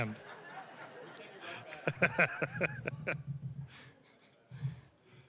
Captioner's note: audience laughing